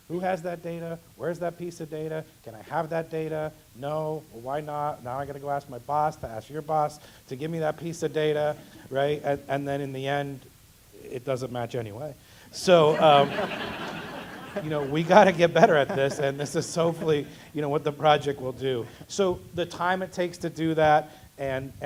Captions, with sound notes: Who has that data, where's that piece of data, can I have that data? No, well why not? Now I gotta go ask my boss to ask your boss to give me that piece of data, right, and then in the end it doesn't match anyway. >> [LAUGH] >> So we gotta get better at this and this is hopefully what the project will do. So the time it takes to do that and